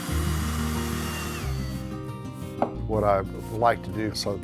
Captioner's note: drill whining